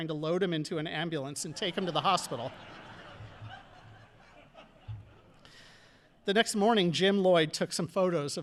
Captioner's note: audience laughing